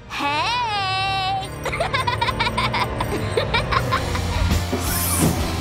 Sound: laughing

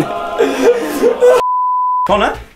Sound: beep

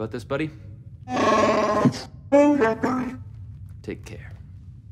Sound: wookie speak

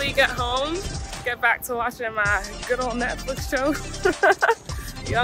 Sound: laughs

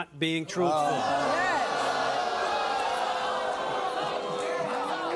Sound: audience gasping

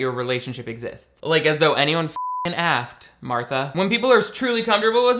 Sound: beeps

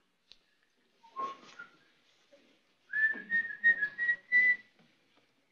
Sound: whistles

